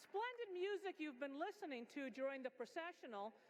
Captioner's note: applause